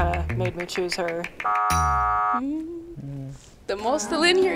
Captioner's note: buzzer